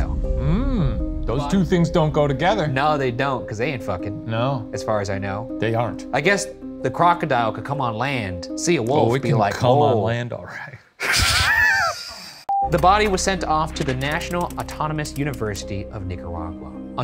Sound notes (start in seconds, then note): 11.0 both snickering; 12.5 film beeping